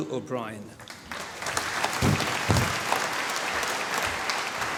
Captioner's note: applause